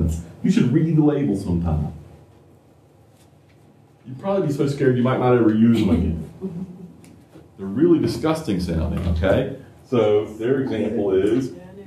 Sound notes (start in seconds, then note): 5.7 laughter